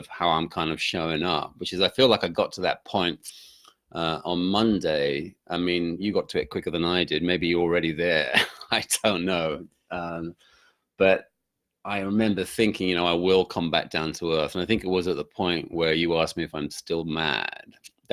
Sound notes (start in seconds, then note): 8.6 laughs